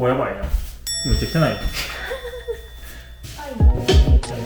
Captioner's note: laughs